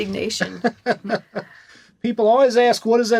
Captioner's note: laughing